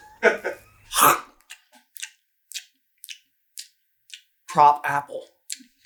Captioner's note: laughing; dramatic chewing